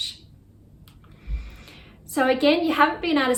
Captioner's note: mouse clicks